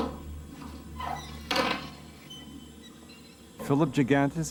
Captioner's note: lock thunking; doors squeaking